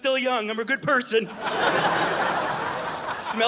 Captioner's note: audience laughing